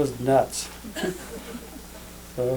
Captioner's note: laughter